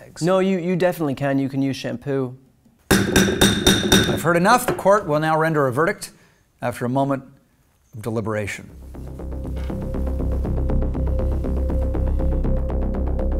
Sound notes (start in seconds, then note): 2.9 gavel banging; 8.8 suspenseful music